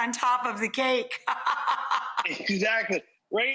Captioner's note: laughs